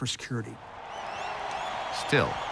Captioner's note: cheering